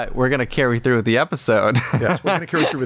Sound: laughter

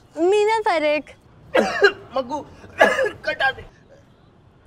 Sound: fake coughs

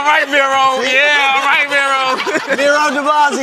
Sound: laughing

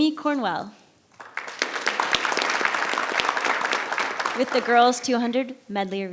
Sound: audience applauds

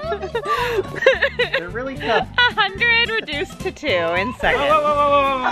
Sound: laughs

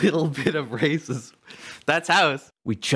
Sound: laughing

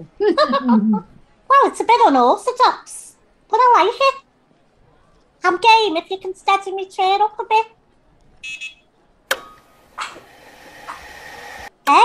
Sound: laughs; powerchair sounds

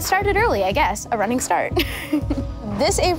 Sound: laughing

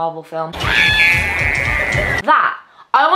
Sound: girl screams

